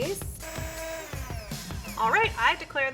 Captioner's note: mixer whirs